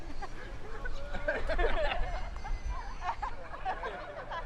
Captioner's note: attendees laughing